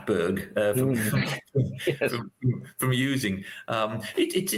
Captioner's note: laughter